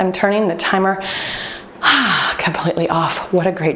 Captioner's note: timer beeping